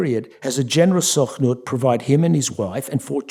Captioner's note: yiddish